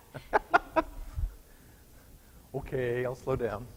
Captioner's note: laughing